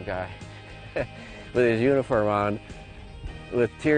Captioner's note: chuckles